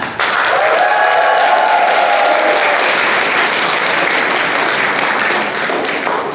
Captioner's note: audience applause